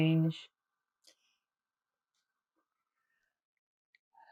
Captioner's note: pauses 8 seconds